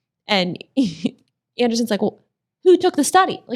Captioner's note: laughs